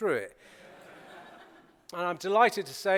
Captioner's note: laughter